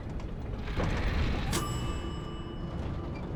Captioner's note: dings